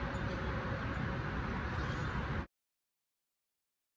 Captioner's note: high-pitched buzzing; birds chirping